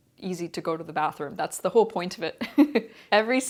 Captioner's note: chuckles